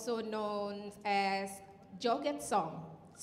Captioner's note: speaking in Indonesian